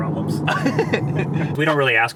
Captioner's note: laughing